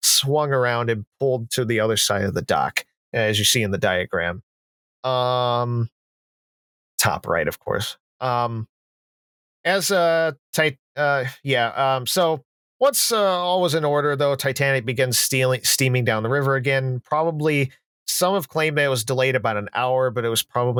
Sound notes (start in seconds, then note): none